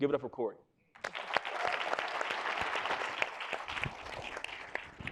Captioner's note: audience applauding